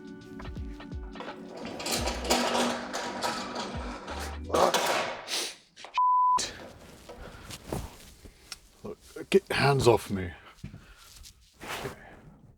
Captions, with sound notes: (Mechanical sound) oh (beep) Get your hands off me.